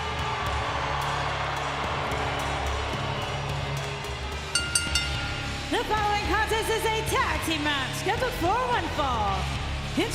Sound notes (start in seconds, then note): 0.0 audience cheers; 1.8 pensive music continues; 4.5 bell rings